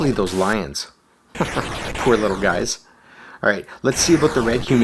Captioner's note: chuckles